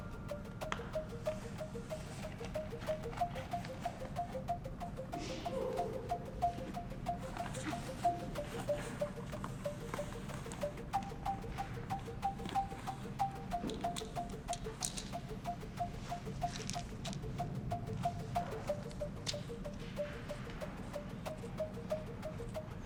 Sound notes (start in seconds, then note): 0.2 rhythmic and quietly tense electronic music; 13.9 pills rattling; 18.3 rhythmic and quietly tense electronic music